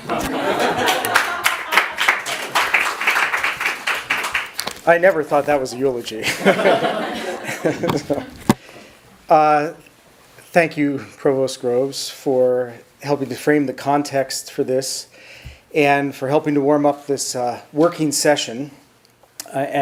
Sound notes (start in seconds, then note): 0.0 audience laughs and applauds; 6.2 audience chuckles; 6.2 chuckles